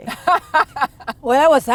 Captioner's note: laughs